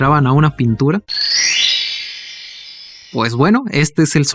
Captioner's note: Sound of the N64